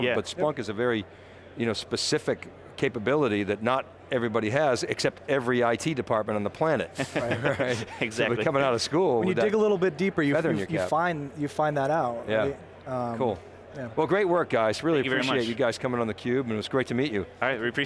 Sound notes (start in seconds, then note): 6.9 all laughing